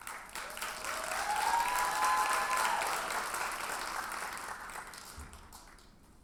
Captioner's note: audience cheers and applauds